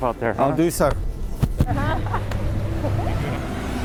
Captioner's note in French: rires